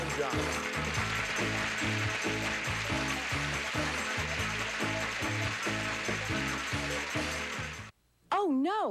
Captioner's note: audience applauding